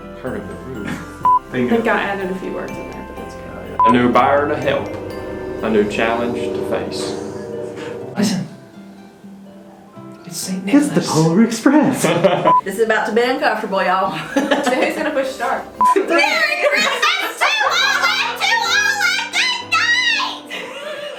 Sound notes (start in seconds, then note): 3.9 train horn; 11.9 laughter; 14.1 laughs